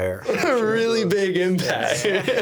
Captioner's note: laughing